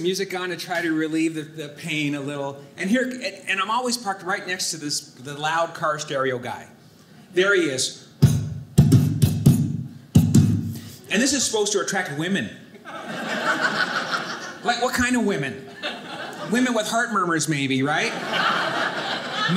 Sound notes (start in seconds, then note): 7.8 thumping; 12.8 audience laughing; 18.0 audience laughing